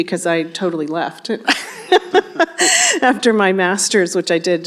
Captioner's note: laughs